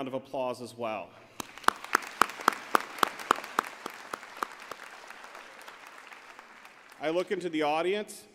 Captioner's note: applause